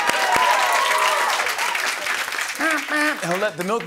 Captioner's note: cheering and applause